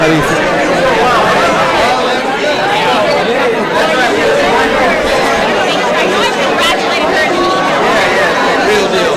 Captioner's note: crowd noise